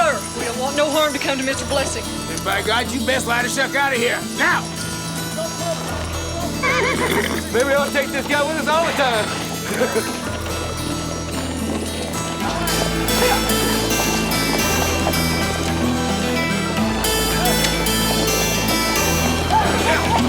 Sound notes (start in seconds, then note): 6.2 horse neighs; 12.3 suspenseful music continues